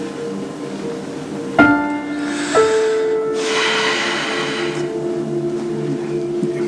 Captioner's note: Michael exhales